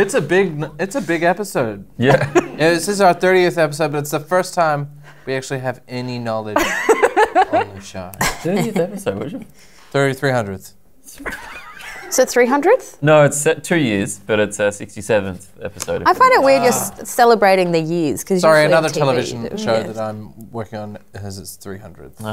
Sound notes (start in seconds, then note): 11.2 laughter